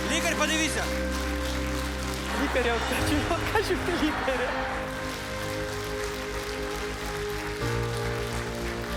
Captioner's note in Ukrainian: оплески